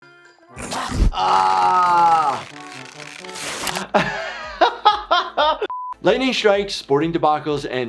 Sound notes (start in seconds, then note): 0.6 groaning; 0.6 chomping sound; 3.7 laughing; 5.7 beep